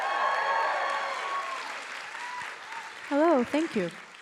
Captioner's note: audience applauding and cheering